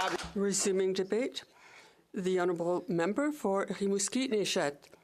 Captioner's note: some Applause